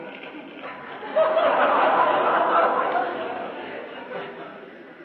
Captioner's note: laughter